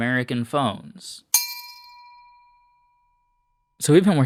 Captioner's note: bell sound